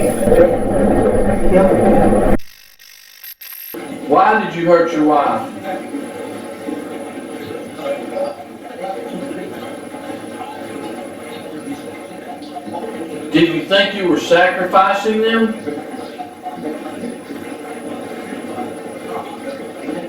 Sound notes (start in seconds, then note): 0.0 static fizzing; 2.5 static fizzing; 6.5 static playback transmitting; 16.0 static playback transmitting